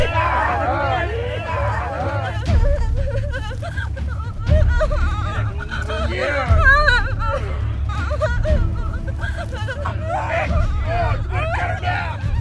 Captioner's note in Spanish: Sound mujer llorando